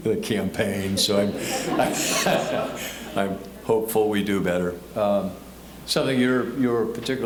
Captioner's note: audience laughing